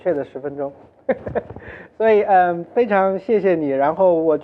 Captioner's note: laughs